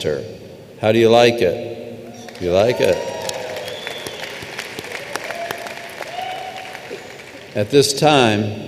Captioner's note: applause